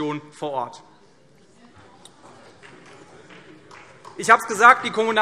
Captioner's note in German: Vereinzelter Beifall CDU